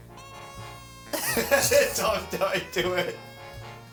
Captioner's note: laughing